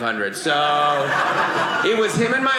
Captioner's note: audience laughing